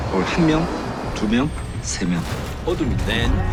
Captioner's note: engine whines; speaking foreign language